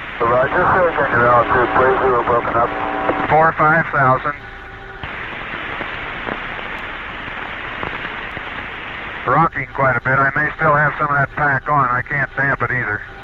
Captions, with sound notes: Roger. Say again your altitude, please. You were broken up. 45,000. (Capsule oscillates dramatically). Rocking quite a bit. I may still have some of that pack on. I can't damp it either.